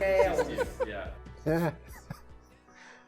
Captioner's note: laughs; chuckles; emotional piano music